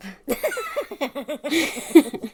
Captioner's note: laughs